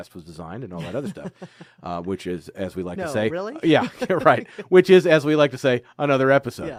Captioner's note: laughing